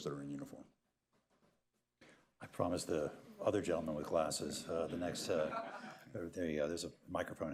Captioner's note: laughter